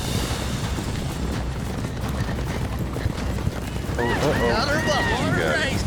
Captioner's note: fast hoofbeats